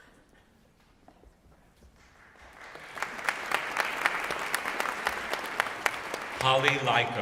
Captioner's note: applause